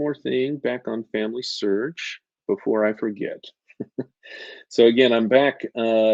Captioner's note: chuckles